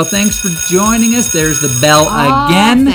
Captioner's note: bell rings